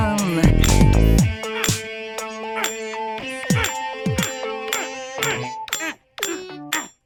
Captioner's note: Jael grunting; chisel dinging